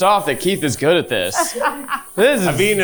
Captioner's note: chuckling